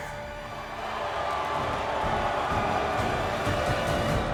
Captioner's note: crowd booing